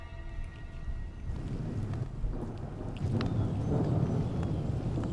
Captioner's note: thunder rumbling